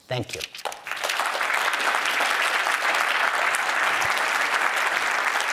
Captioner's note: applause